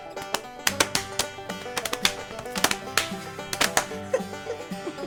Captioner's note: hands slapping; banjo plucking; laughter